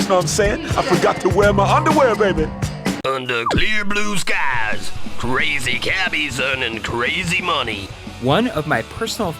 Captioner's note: game audio